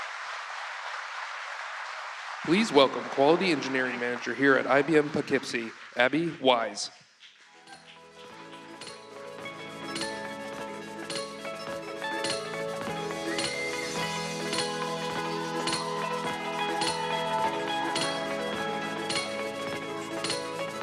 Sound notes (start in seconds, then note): 3.4 cheers and applause